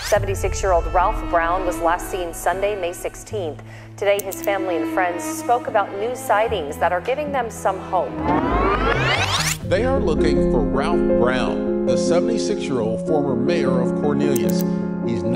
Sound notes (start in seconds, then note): 3.3 somber music; 8.2 tape whirring